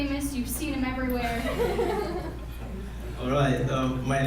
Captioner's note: laughing